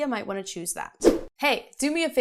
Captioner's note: air whooshing